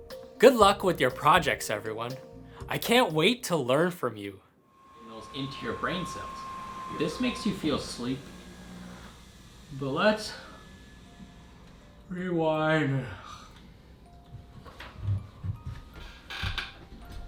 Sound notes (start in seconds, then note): 8.9 yawn; 13.6 lullaby playing